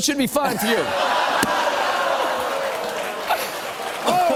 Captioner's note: audience groans